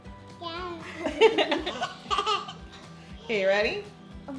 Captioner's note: laughing